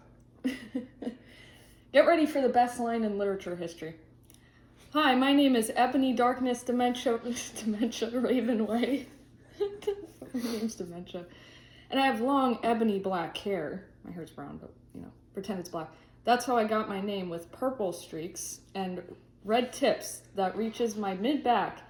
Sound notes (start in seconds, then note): 0.4 laughs; 9.4 laughs